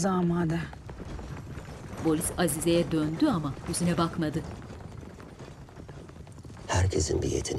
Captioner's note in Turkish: At arabası sesi